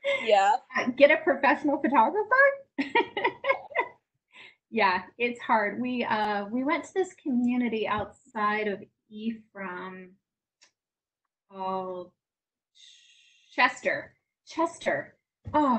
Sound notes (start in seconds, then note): 0.0 laughs; 3.4 laughs